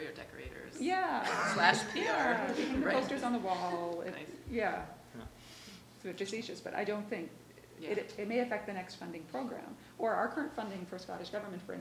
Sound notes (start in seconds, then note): 1.2 all laughing